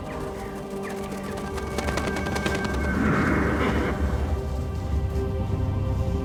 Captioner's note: wings flapping; mysterious music